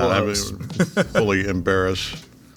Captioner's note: laughing